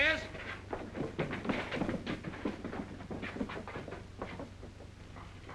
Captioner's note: frantic footsteps